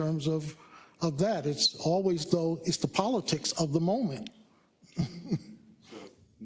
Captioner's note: laugh